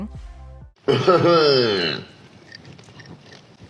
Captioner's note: laughing